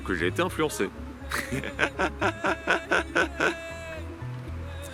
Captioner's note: laughs